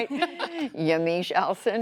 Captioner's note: laughter